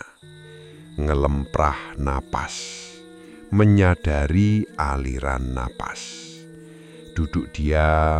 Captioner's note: breathing